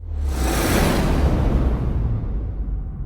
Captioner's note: logo whooshes